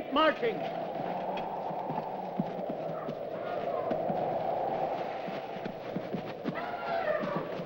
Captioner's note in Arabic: تهب الرياح